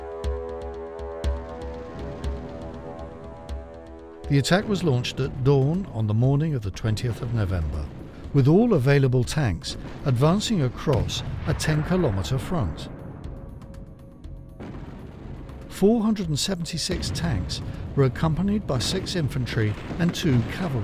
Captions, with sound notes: [explosion booms] The attack was launched at dawn on the morning of the 20th of November, with all available tanks advancing across a 10 kilometer front. [explosion booms] 476 tanks were accompanied